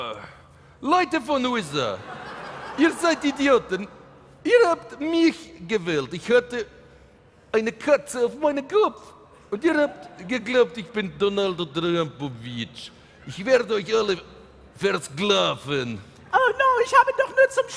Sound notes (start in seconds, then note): 3.4 speaking in German